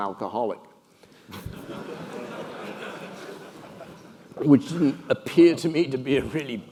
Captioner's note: laugh